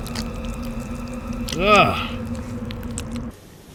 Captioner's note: exclaims in disgust